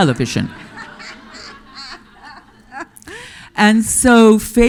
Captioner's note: audience laughing